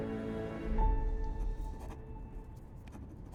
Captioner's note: pens scribble